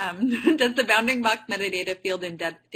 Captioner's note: laughs